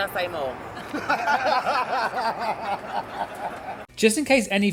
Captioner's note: laughs